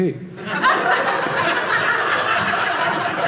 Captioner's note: audience laughing